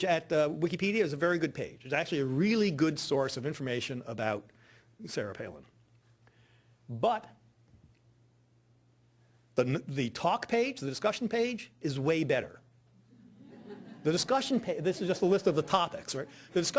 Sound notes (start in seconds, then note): 13.1 audience laughing